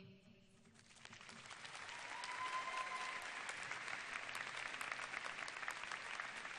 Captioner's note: applause and cheers